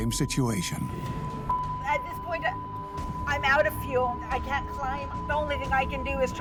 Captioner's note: beeping